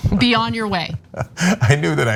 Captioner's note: laugh